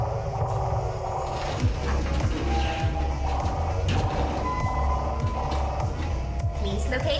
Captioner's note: creaking echoes; large equipment shifting